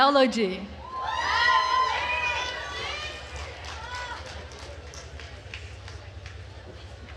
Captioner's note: attendees cheering and applauding